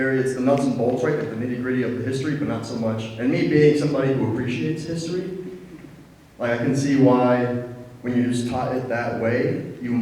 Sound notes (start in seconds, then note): none